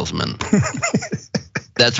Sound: laugh

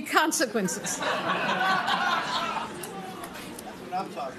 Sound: laughter

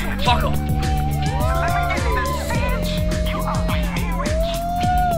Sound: group cheering

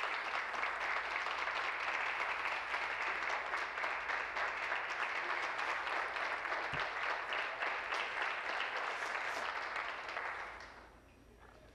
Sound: applause

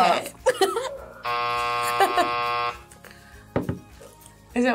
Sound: buzzer rings

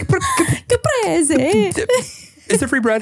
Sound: stammering

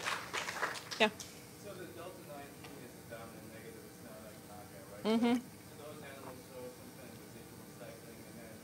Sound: applause

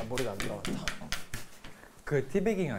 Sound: laughing

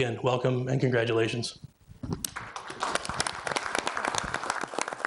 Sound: audience applauding

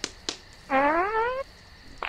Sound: squeaky fart

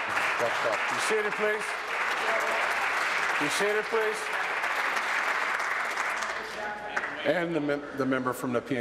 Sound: applause

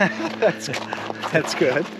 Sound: Eugene laughing

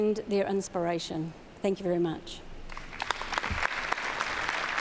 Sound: applause

